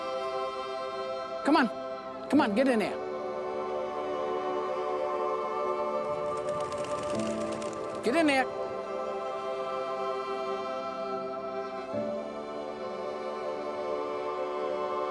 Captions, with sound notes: - Come on, come on, get in there. (wings fluttering) Get in there. (soothing music continues)